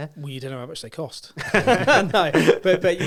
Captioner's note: laughs